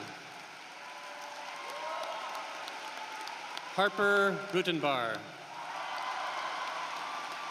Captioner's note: cheering and applause